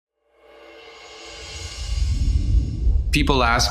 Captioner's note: air whooshing